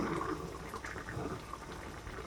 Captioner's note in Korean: 보글보글🥘